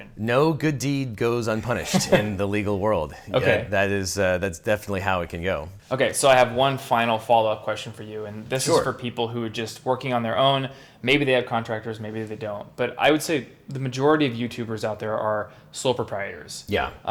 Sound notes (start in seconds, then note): 1.8 laughing